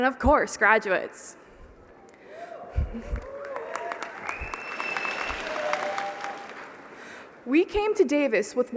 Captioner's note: applause